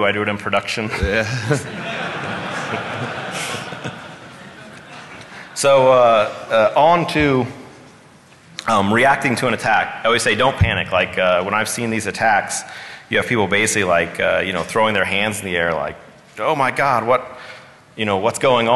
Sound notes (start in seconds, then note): 4.8 laughing